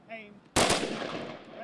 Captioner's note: gunfire